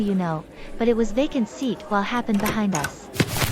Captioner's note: door Open